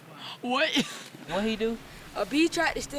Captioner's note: chuckles